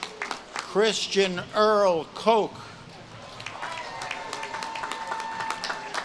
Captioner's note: audience claps and cheers